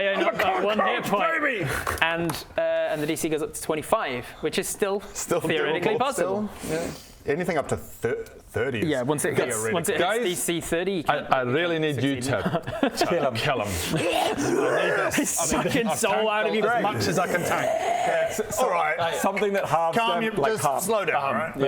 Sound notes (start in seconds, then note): 13.7 wither noises